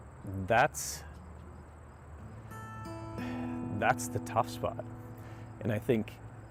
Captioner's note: choking up